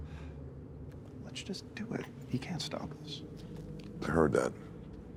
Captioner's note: sighs